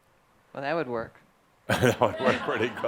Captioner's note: some chuckles; chuckling